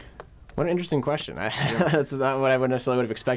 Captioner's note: laughing